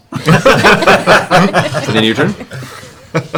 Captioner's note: laughter